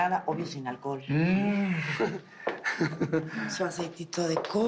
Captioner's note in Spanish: Ríe